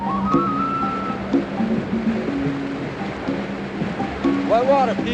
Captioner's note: water rushing